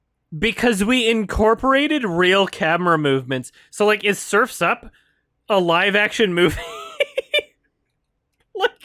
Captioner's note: laughs at the end of sentence